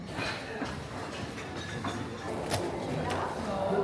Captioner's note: glasses clinking; people chattering